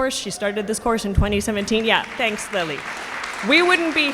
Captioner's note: audience applauding